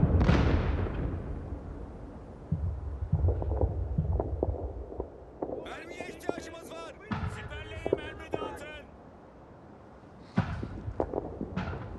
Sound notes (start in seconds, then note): 5.3 distant gunfire crackles; 7.4 man 2 yells; 7.4 man yells